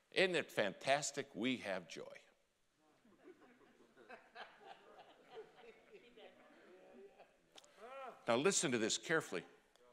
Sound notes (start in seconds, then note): 3.2 congregation laughing